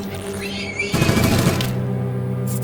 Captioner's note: shriek; robotic beeps; gunfire